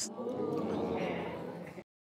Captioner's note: audience exclaiming